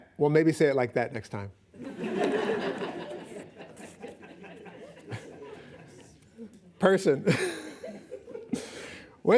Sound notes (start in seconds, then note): 2.0 laughing; 7.3 chuckles